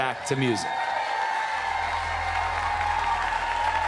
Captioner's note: cheering and applause